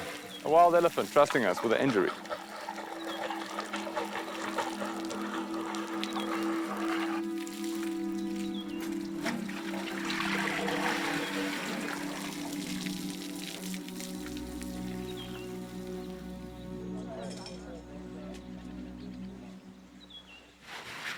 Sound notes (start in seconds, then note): 15.4 indistinct chatter